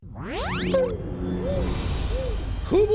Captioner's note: space Sounds